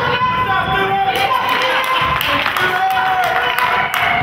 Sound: crowd claps

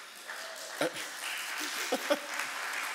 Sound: audience applauding

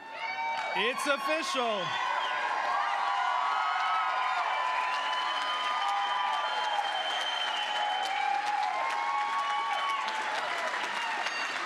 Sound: cheering

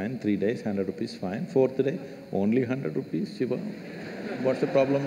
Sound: laughter

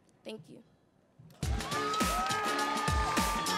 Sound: audience cheering; playful music

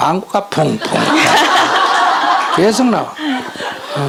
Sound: questioner/Audience Laughter

